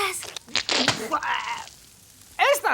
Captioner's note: spitting